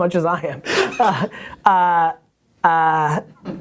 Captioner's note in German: Lacht